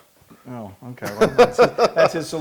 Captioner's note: laugh